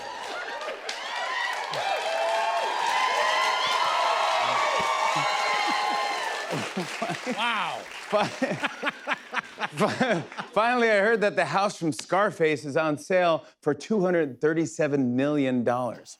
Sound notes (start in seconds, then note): 0.3 cheers and applause; 8.3 laughs